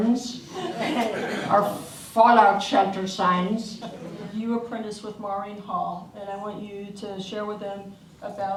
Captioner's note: audience laughs